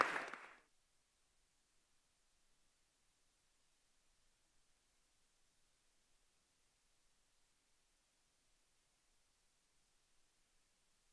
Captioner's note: applause